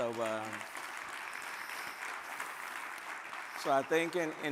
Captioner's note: audience applaud